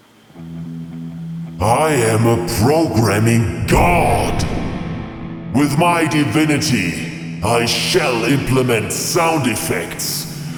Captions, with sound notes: [Booming voice] I am a programming God! With my divinity I shall implement sound effects.